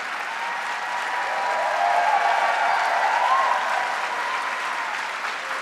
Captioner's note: audience cheering